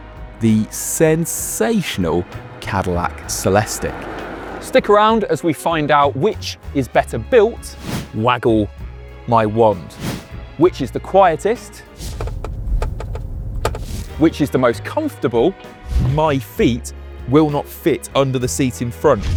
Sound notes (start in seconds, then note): 12.1 tapping